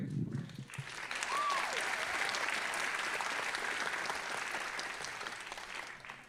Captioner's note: audience applauding and cheering